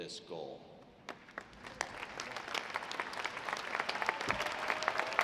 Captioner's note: graduates applauding